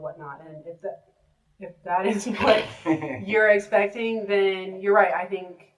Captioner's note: laughter